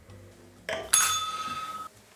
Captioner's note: bell rings